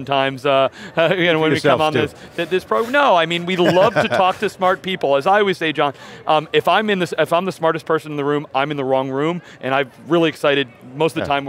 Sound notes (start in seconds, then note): 3.6 laughs